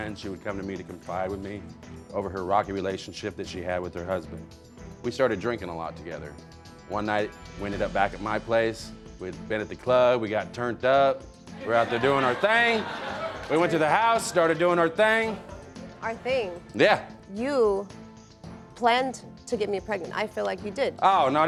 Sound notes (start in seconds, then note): 11.6 audience laughing